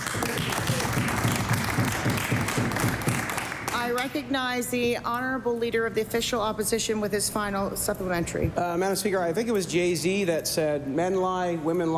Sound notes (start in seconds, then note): 5.0 applause